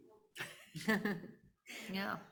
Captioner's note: laughs